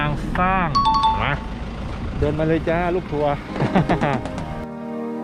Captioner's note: laugh